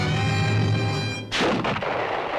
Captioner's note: gunshot